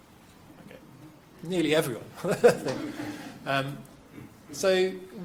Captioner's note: laughs